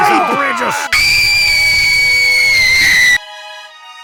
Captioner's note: Nina screams as she continues to plummet